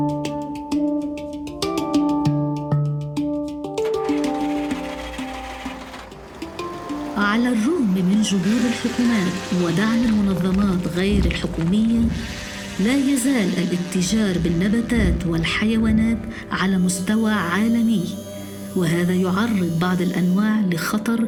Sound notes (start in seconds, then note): 9.5 ship horn